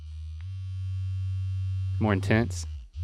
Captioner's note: device humming loudly